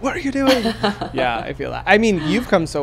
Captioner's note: laughs